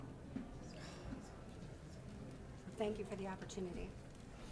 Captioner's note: woman sighs